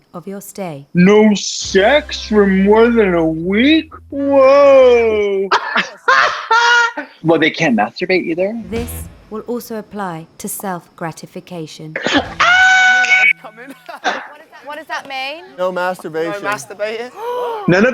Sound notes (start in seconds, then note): 4.1 laughs; 11.5 laughs; 12.4 snaps; 17.1 gasps